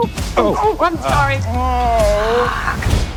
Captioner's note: groans